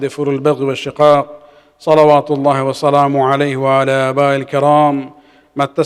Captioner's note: arabic